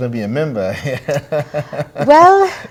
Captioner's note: laughter